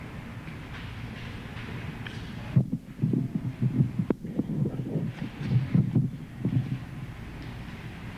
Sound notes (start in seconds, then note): 2.6 microphone rustling